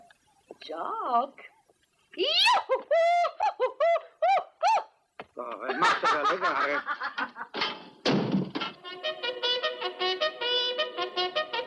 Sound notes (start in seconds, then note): 7.3 Mary laughs; 8.8 reveille plays